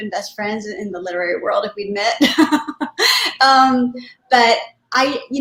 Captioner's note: laughter